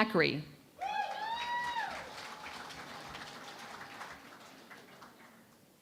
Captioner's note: cheering and Applause